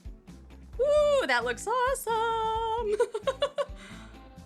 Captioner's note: laughs